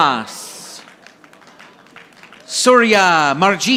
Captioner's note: audience applauding